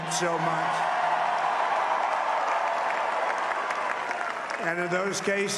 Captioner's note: applause